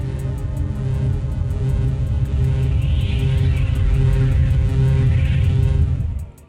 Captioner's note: cannon beam hums loudly